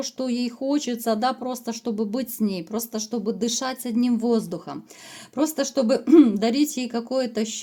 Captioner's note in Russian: откашливается